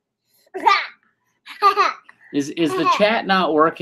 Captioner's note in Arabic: الضحك